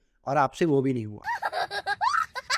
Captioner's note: crying